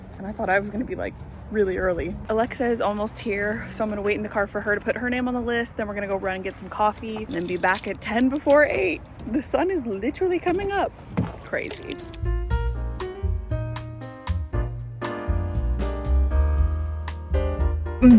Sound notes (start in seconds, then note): 7.2 keys jingle; 11.9 pleasant music